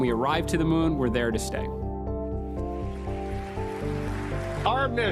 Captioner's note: applause